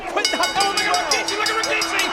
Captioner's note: bell ringing